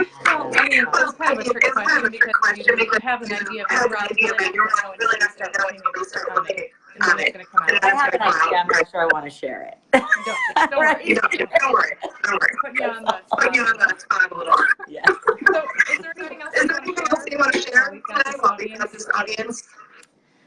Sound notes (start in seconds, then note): 10.3 laughing; 15.0 laughing